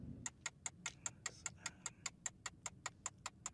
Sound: timer ticking

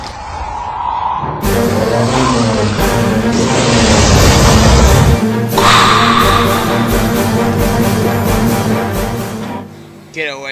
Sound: roaring and Hissing

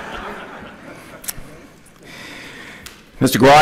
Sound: laughter

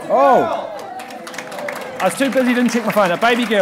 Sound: audience cheering

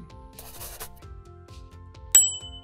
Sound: pencil scrawls; bell chimes

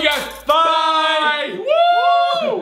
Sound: both men shout

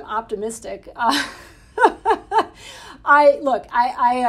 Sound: Jennifer laughing

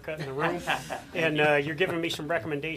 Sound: audience laughing

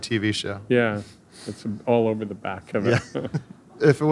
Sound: laughing

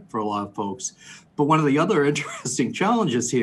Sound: laughs

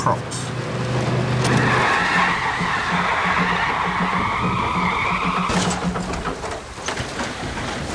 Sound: tyres screech

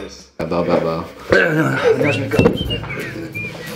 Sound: grunts

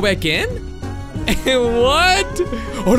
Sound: laughs

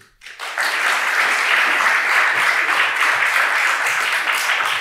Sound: attendees applauding

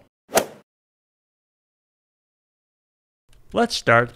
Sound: golf swing sound effect

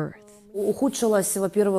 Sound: speaking Foreign Language

